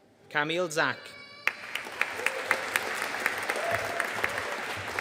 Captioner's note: audience applauding